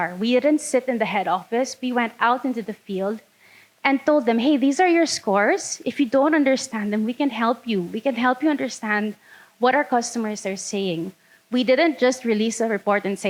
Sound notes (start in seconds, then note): none